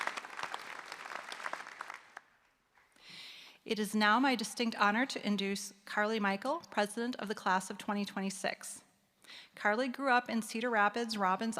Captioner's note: applause